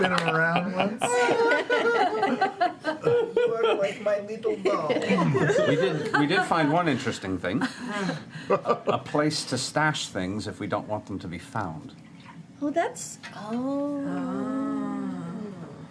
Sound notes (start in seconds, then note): 4.0 jester voice